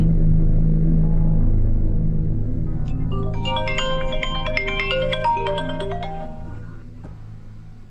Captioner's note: phone ringing